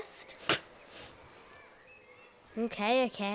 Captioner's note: scoffs